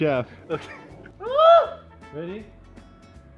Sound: awesome scream

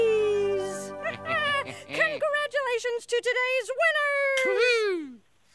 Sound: chuckles

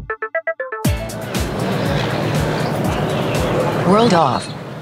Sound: city sounds

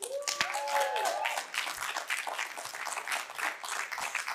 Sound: audience applauding

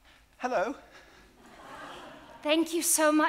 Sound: audience laughing

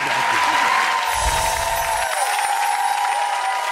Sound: cheering

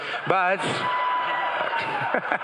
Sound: crowd cheering

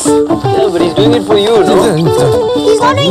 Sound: Ravi blabbering

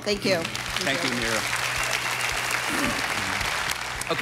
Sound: audience applauding

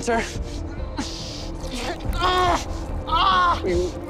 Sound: groaning; shouting

